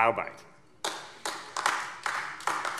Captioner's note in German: Beifall AfD